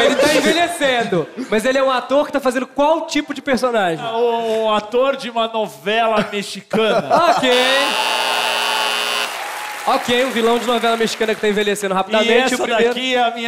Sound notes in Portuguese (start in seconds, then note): 9.0 campainha